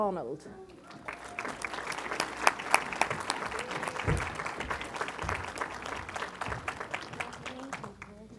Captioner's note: applause